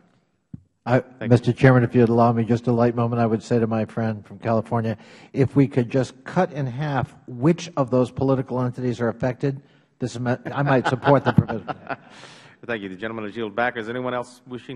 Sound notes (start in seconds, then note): 10.3 laughter